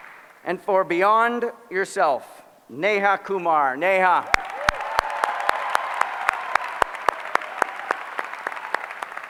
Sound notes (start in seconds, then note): 4.2 applause